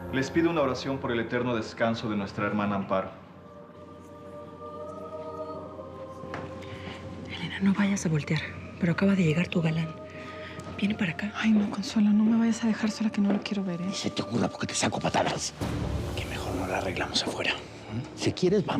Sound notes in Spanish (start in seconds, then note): 7.7 música con fondo coral; 8.1 en voz baja